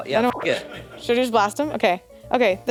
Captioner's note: beep